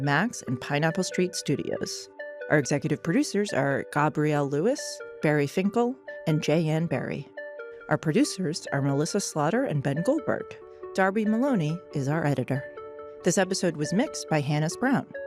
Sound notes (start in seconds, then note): none